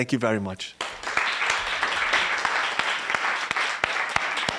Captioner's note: applause